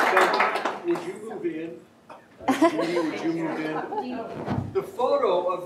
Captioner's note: laughs